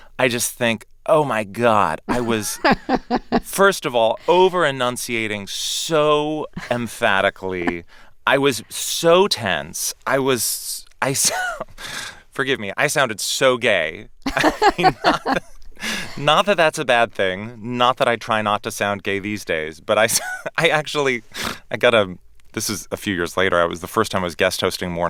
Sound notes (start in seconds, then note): 14.2 laughter